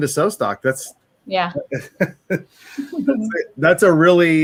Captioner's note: laughs